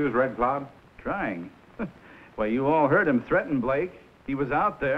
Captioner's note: chuckles